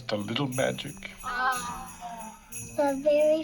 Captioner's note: all exclaim